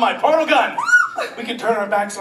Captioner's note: Caroline squeals